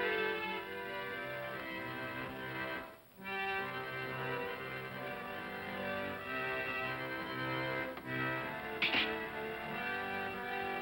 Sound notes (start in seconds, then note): 8.8 razor clatters down